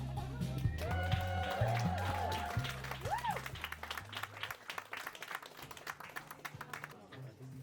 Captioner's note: audience cheers